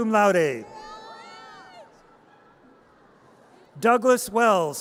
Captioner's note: audience cheers